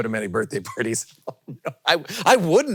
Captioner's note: laughs